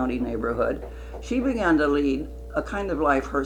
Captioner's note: none